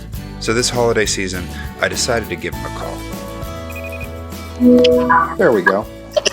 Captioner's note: phone ringing